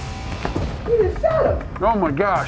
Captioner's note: voiceover